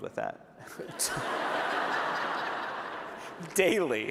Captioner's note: laughter